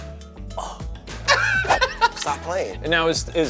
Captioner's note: laughs